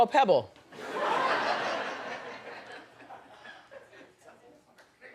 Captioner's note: audience laughs